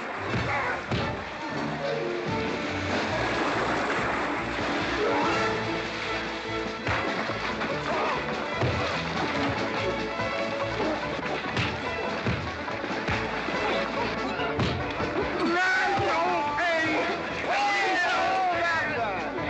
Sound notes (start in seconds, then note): 0.2 sounds of scuffling & fighting; 0.2 western fight music; 4.6 splash; 5.9 sounds of scuffling & fighting; 5.9 western fight music